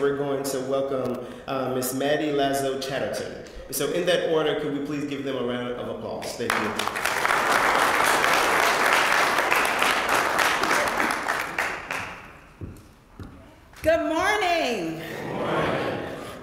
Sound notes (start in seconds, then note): 10.4 applause